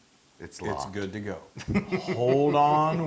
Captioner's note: laugh